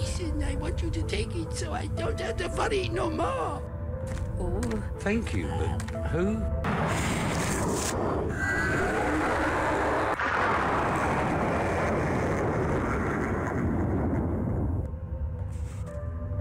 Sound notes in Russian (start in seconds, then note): 6.7 существо ревёт и исчезает с раскатом грома и эхом злорадного хохота